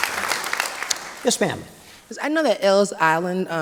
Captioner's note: applause